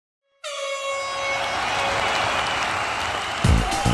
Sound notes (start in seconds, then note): 0.3 horn blares; 0.5 audience applauds and cheers; 3.3 upbeat music